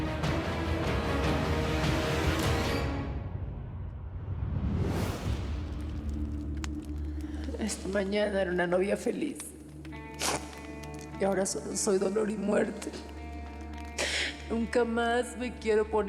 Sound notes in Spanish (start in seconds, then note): 7.5 llorosa; 10.7 solloza